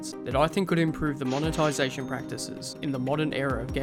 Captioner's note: cash register